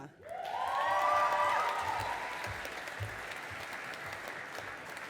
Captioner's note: audience applauding